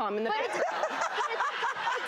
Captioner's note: audience laughs